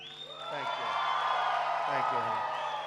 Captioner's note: applause